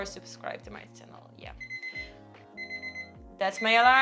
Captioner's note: beep sound